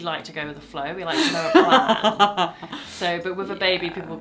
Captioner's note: laughs